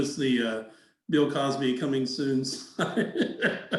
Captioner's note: laughs